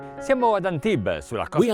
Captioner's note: speaking foreign language